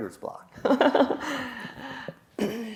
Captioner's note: laughs